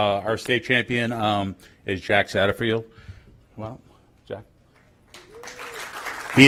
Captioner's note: applause